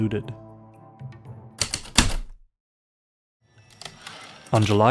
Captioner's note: typewriter keystrokes, return slide